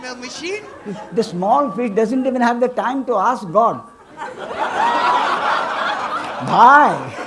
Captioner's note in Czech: smích